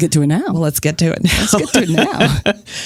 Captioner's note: laughs